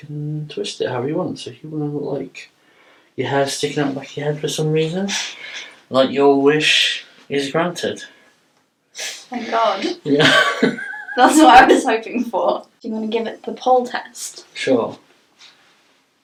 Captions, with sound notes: and you can twist it however you want so if you want to look like your hair's sticking out the back of your head for some reason. Your wish is granted! -Thank God! -(Both laugh) -That's what I was hoping for! You wanna give it the pull test?